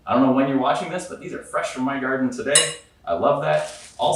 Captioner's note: bowl clatters